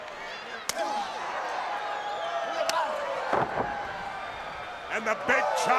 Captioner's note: crowd cheering